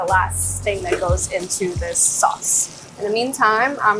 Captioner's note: sauce sizzling